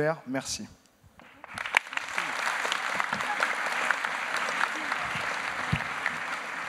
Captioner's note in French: Applaudissements